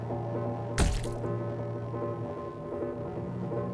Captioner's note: squishing sound